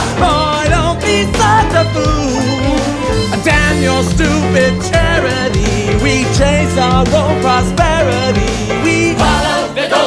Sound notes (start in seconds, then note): none